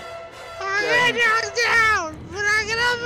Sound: shrilly

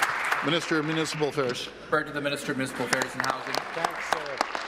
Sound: applause

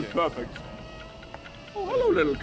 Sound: dragon buzzes ominously

